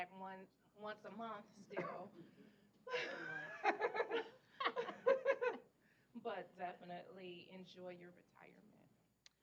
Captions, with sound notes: ONCE A MONTH STILL. [ LAUGHTER ] BUT DEFINITELY, ENJOY YOUR RETIREMENT.